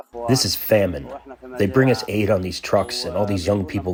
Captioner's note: through translator